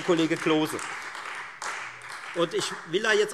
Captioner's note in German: Beifall Freie Demokraten